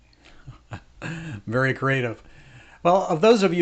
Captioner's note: chuckles